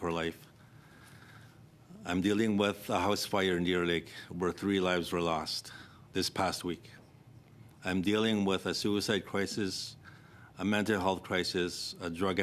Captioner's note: speaking French